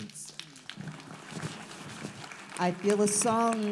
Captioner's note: audience applauds